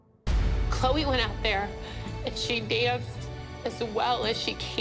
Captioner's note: tearfully